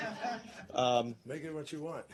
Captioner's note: laughter